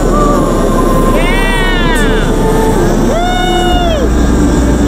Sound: cheering

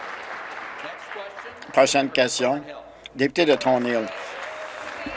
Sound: applause

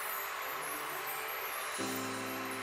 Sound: cheering

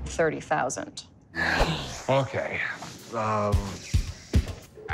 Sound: sighs

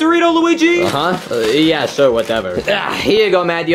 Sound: grunts

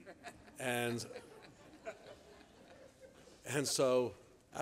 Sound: laughing

